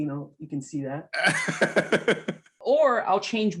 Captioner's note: laughing